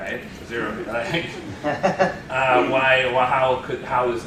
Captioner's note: laughter